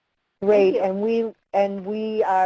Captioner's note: voiceover